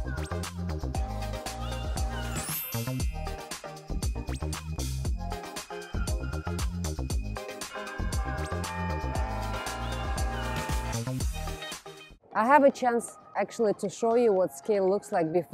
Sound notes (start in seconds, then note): 0.2 upbeat music; 7.6 bells ringing